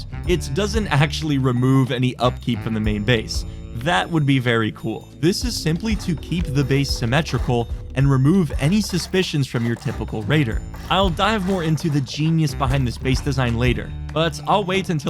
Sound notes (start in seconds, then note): none